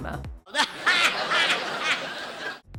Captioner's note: laughing